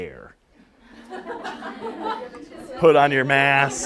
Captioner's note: laughter